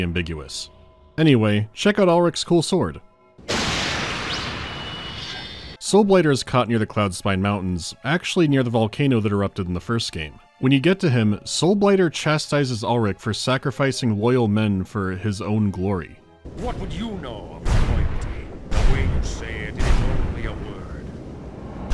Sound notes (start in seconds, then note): 3.4 thunderous strike; 4.2 follow-up swoosh-swoosh